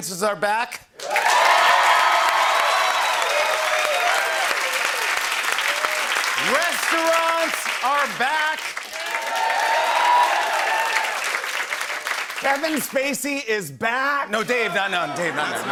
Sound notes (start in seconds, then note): 0.3 cheering and applause; 8.7 cheering and applause